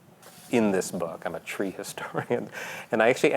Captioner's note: laughing